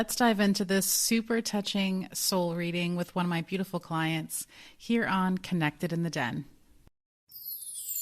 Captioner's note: chimes